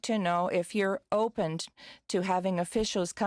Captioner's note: speaking French